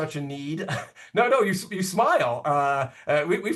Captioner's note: giggles